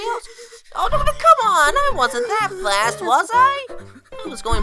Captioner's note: breathing heavily